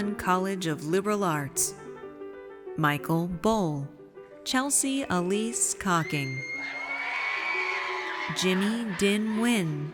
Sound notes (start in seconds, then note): 6.0 audience cheers